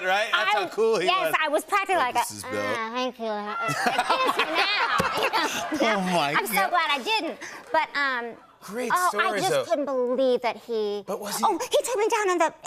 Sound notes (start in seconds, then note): 3.6 laughter